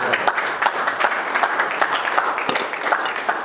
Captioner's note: applause